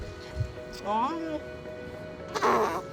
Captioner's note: baby cooing; laughing